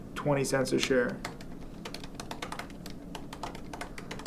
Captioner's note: typing